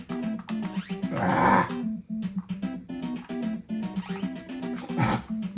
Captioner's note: grunts in frustration